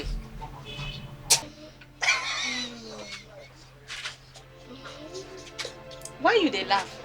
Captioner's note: ironic laughter